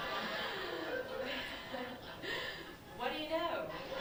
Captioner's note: laughter